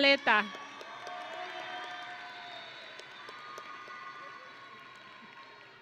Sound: audience and graduates cheering

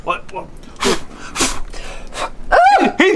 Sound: blowing; screaming

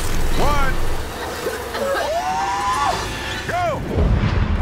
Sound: coughs

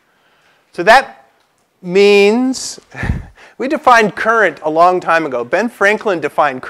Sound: laugh

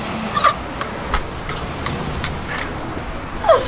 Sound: laughs

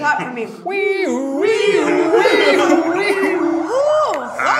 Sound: imitating siren

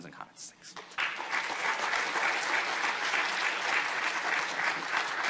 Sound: audience applauding

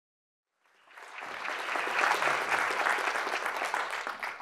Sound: audience applauding

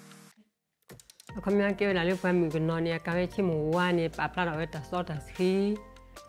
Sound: speaking in foreign language

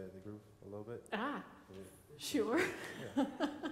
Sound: laughs

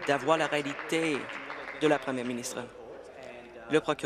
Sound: applause

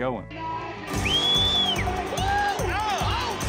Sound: cheering, whistling

